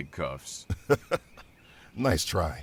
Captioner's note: laughs